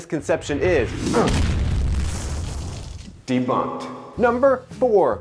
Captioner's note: fireball roars; grunts